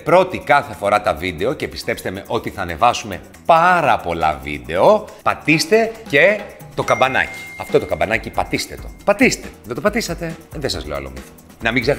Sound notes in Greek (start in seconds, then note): 6.8 ήχος από καμπανάκι